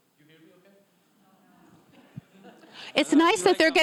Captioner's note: audience members laughing